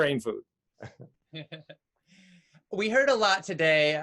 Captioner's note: laughing